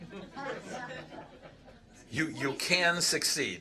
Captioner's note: laughter